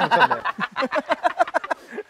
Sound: laughing

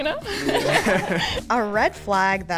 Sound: all laugh

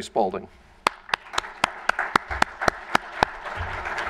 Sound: applause

